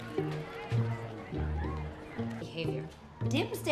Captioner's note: background chatter